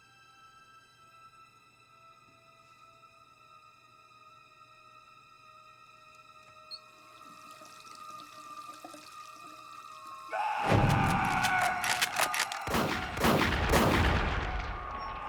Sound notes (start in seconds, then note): 3.2 eerie music; 10.2 screams; 13.9 repeated gunshots